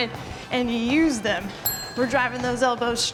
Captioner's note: bell dinging